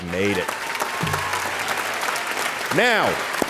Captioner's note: audience applauding